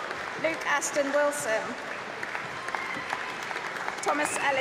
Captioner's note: applause; applause